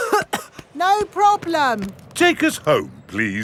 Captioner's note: coughing